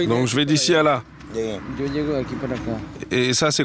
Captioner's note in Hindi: स्पैनिश बोलते हुए